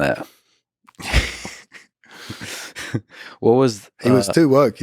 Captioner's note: Lex laughs